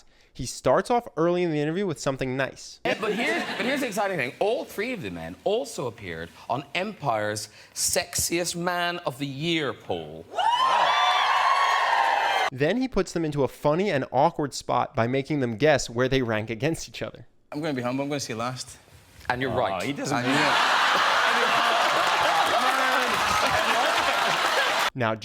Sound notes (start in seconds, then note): 10.3 audience cheering; 19.8 audience laughs